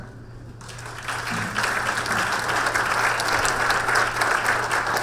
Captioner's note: audience applause